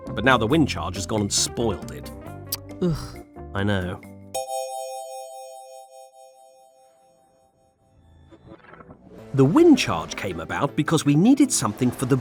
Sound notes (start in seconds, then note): 2.8 groans